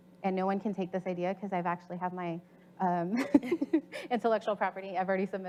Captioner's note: laughs